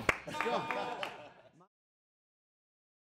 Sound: laughing

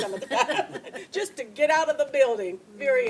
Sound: laughter; laughs

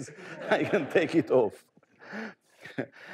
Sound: audience laughing

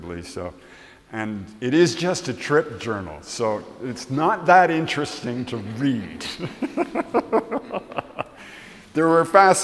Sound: laughs

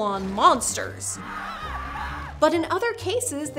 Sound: screaming

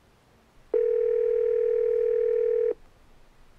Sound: phone ringing

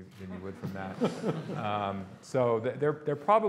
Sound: audience laughing

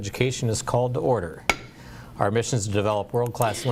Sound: gavel knock

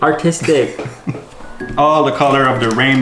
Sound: laughing

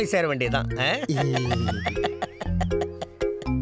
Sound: cackles in glee

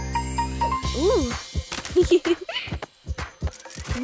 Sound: giggling

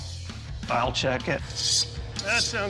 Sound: scraping

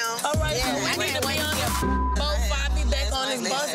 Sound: beep

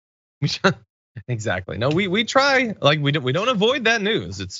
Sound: laugh

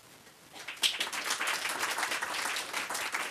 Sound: applause

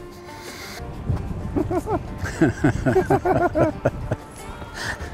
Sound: laughing

